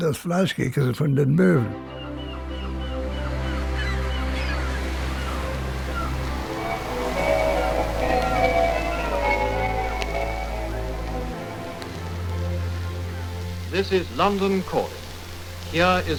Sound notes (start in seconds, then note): 2.7 bright uplifting music; 6.2 bells ringing; 13.9 radio Announcer